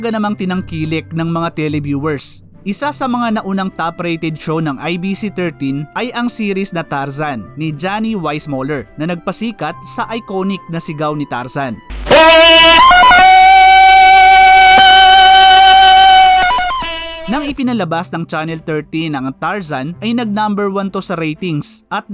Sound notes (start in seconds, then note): 12.0 Johnny Weismuller Tarzan Call